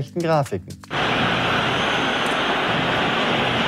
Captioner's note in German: Jubel